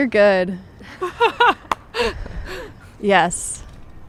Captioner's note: both laughing